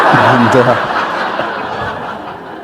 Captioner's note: laughter